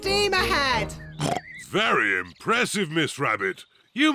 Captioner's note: oinks